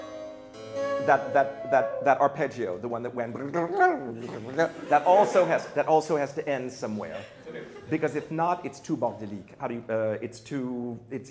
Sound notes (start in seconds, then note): 4.2 laughter